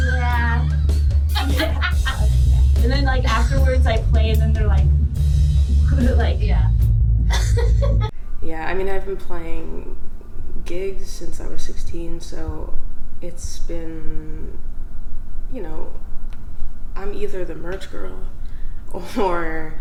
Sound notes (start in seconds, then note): 1.3 laughs; 10.6 laughs